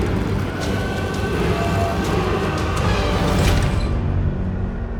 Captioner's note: dramatic music continues; people screaming